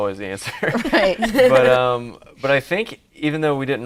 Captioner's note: laughing